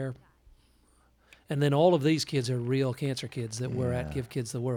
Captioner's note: applause and cheering